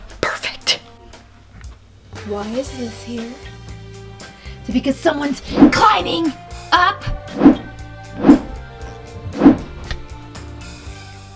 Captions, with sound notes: Perfect. Why is this here? Is it because someone's climbing up? (camera whooshing)